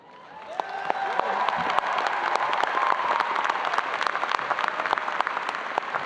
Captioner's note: audience applauding and cheering